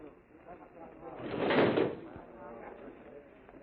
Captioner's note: chair dragging